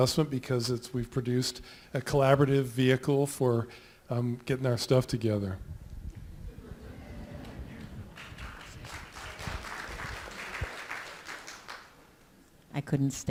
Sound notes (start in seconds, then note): 8.9 applause